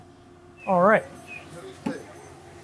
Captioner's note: speaker whistles; speaker beeps